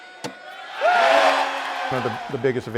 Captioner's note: ambient crowd noises; crowd cheering